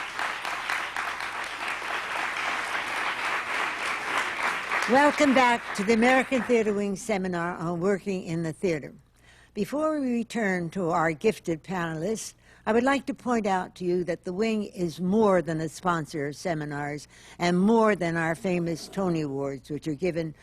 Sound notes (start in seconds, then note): 3.2 applause